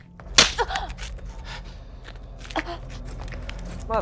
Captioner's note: Yvonne gasping; solemn music continues